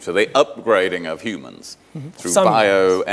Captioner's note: none